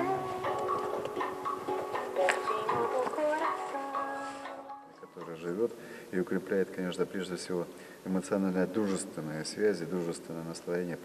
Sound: speaking russian

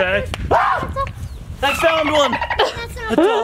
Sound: dolphin clicking

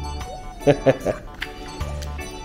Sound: laughs

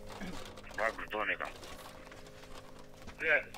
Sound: radio exchange

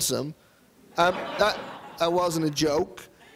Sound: audience laughing

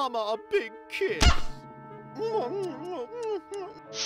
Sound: smooching

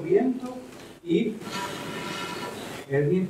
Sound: blows

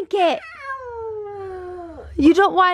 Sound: whining

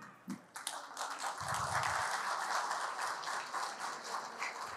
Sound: applause

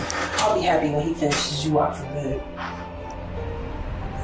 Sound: sighs

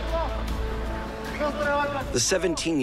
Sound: men shouting

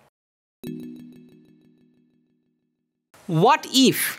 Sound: text chiming

